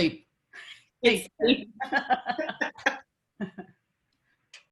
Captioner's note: laughs